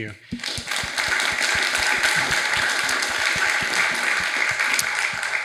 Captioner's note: audience applauding